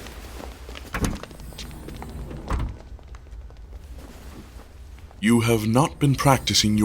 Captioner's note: shuffling feet, door closing